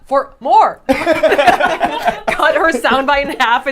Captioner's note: group laughs